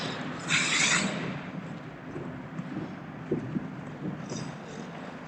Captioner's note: skates and roof noise